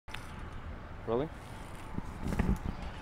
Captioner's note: voiceover